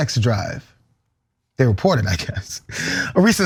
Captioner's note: laugh